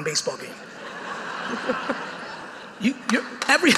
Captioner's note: audience laughing